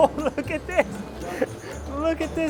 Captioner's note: chuckles